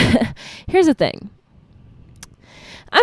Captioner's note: laughs; smacks lips